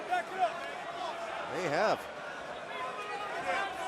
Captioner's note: crowd chatter